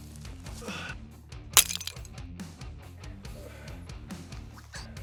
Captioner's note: clay shatters